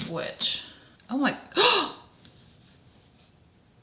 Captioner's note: gasps